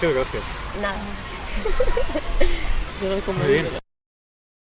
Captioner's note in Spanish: risas